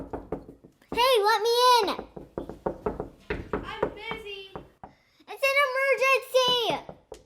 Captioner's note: knocking